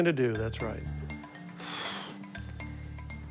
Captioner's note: sighs